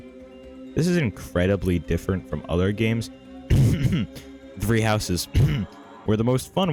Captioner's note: cough cough